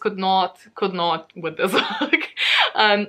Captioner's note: laughs